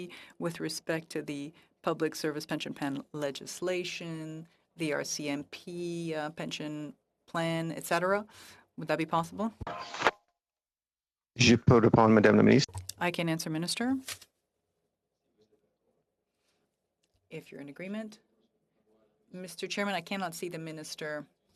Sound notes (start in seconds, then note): 17.8 speaking French